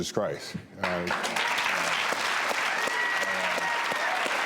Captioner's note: audience applauds